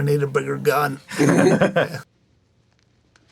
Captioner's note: laughing